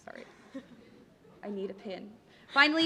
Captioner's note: laughter